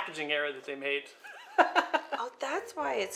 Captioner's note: laughter